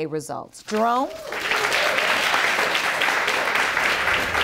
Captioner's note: audience applauding